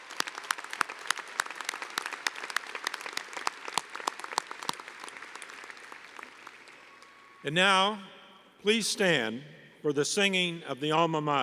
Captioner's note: applause